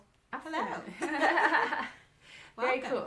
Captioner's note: both laughing